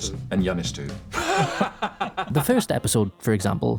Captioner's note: laughs